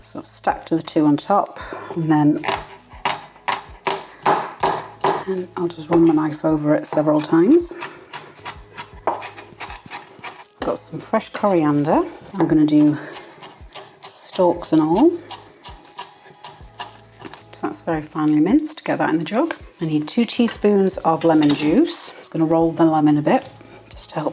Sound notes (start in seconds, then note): 5.3 chop chop chop